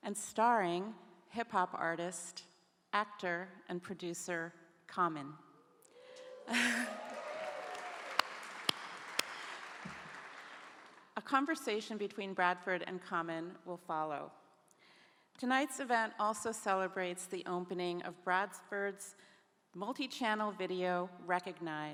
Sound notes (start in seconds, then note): 6.0 audience cheering; 8.2 clapping